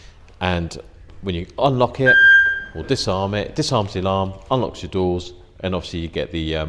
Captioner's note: beep